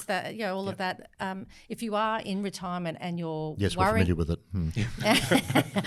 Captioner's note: laughs